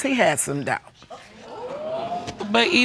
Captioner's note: audience exclaims